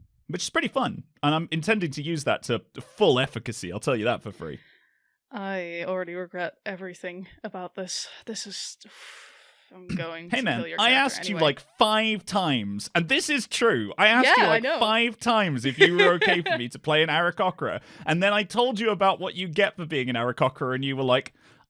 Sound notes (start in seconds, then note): 8.4 sighs; 13.6 laughs